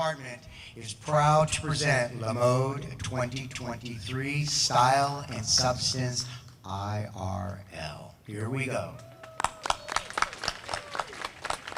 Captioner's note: applause